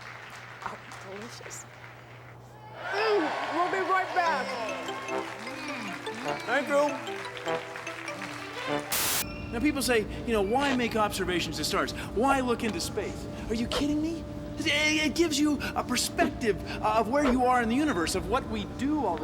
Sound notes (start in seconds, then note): 5.7 cheers and applause